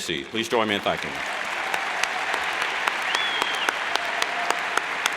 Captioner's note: cheers and applauds